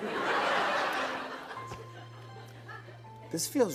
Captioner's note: laughter